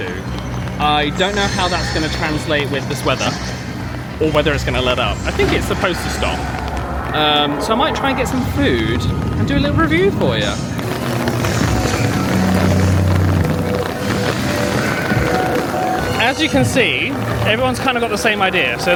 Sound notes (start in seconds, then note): 11.1 rain pattering; 11.1 spooky music